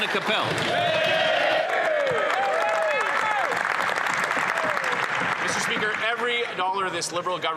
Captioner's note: some Applause